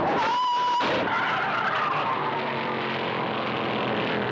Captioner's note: tires screeching; car thudding